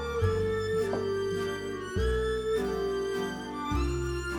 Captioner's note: cup clinking